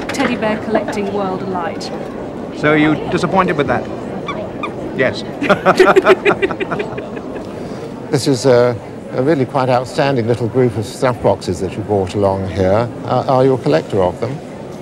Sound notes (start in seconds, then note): 4.2 bear squeaks; 5.0 they laugh